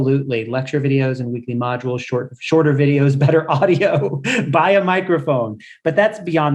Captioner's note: laugh